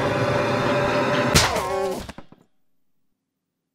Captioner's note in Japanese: 効果音